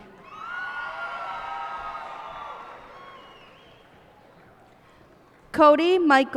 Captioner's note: cheers and applause